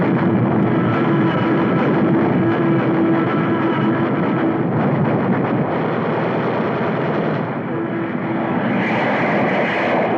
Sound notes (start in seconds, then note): none